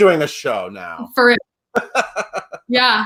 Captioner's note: laughs